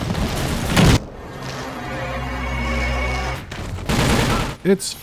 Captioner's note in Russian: взрыв внезапно смолкает, когда время обращается вспять